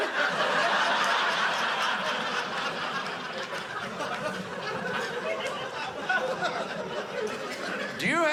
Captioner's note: audience laughing